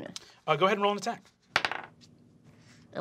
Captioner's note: dice clacking